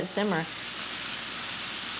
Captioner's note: ingredients sizzling